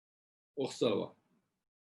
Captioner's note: tibetan